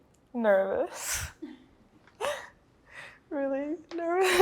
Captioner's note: chuckles